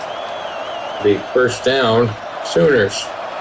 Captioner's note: crowd Noises